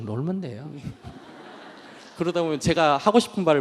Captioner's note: audience Laughter